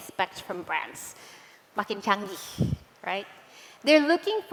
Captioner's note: non-english